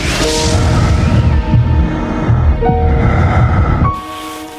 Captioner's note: breathing heavily